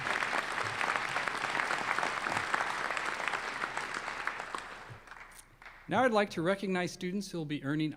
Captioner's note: applause